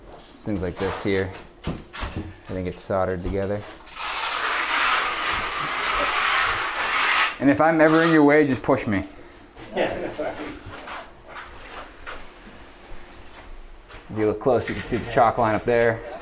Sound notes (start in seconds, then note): 3.6 plaster spatula scraping; 9.6 workers laugh